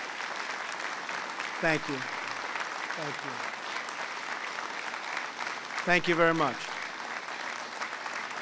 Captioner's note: applause